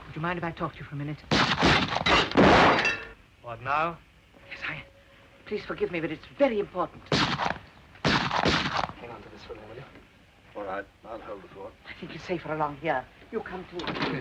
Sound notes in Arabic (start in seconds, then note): 1.4 إطلاق نار وتحطيم زجاج; 8.0 طلقات نارية